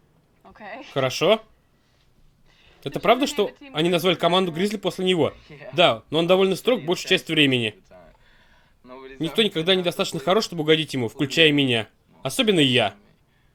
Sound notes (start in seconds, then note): none